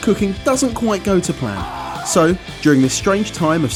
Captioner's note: yells